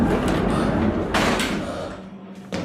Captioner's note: panting; chair crashes